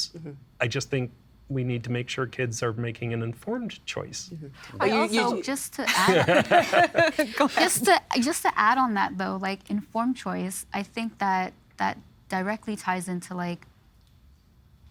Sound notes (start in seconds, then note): 5.8 laughing